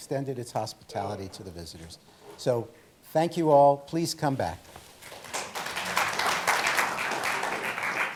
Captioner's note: applause